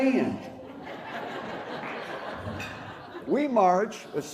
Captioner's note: laughter